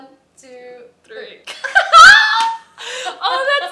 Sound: laughter

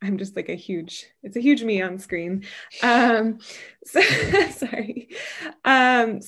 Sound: laughs

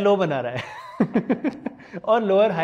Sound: laughing

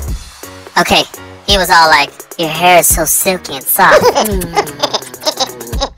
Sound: kissing noises

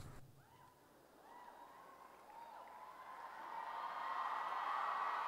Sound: cheering

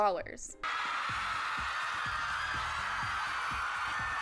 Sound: crowd screaming

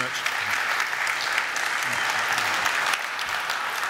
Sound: audience applaud

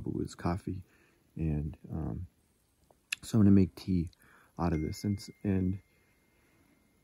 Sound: phone dings

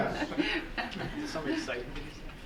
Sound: people laughing

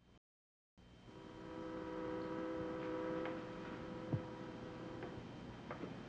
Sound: distant whistle tooting

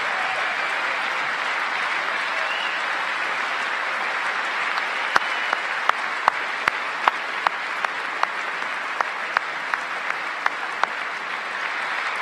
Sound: cheers and applause; applause

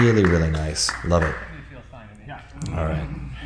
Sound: laughs

